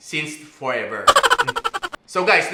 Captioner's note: laughter